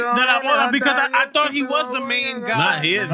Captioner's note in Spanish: Hablando en idioma extranjero